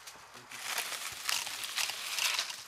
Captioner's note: rustling